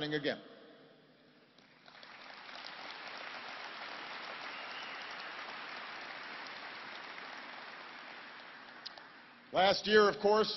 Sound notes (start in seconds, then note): 9.0 applause